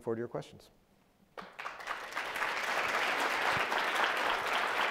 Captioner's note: audience applauding